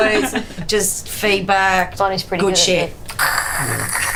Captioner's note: imitates feedback